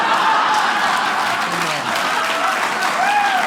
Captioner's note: audience cheering